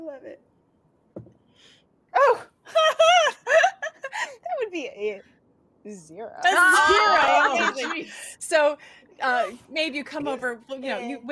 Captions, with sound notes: - Oh, I love it. - Oh, (laughing). That would be a zero. (group clamoring) - So maybe you come over, you know,